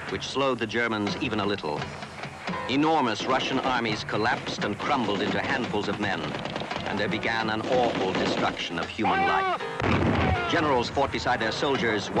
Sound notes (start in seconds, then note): 9.7 gun blasting